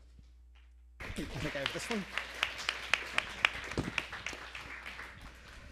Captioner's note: applause